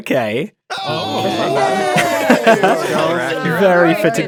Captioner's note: cheering